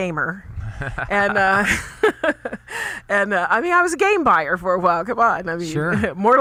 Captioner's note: laughs